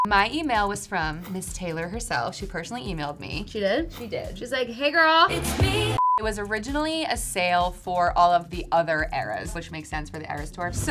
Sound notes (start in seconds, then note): 5.9 beep